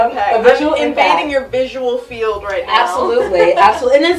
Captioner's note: laughs